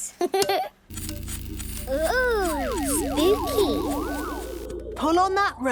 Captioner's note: pulsing